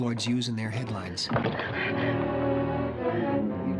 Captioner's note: gasps